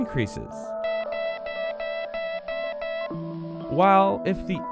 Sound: morse code

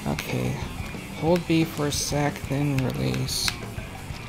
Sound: joystick tapping

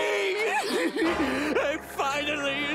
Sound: laughing

